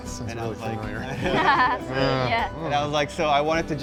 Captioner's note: all laughing